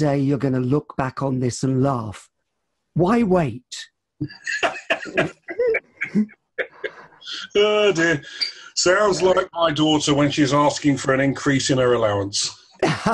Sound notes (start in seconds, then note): 4.2 laughs; 12.8 laughter